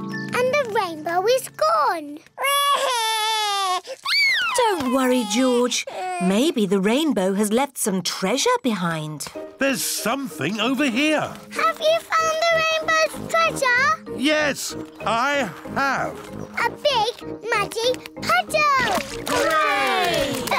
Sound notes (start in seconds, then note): 2.4 cries